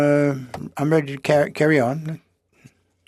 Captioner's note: speaking French